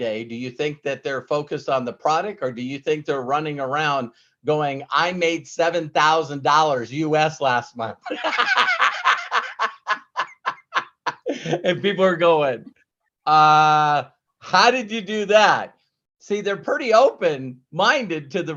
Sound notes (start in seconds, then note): 8.0 laughs